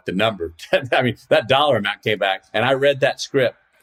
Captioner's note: laughs